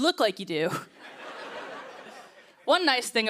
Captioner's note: laughter